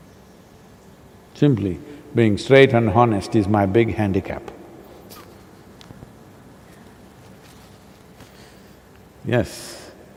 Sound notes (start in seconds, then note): 5.9 laughs